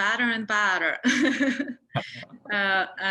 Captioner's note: laughs